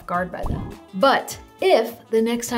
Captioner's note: text bubble popping